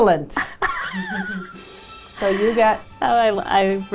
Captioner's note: laughing